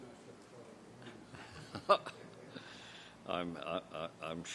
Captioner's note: laughs